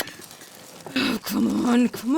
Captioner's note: Albert's footsteps echo, gun is cocked; distant sounds of frantic rummaging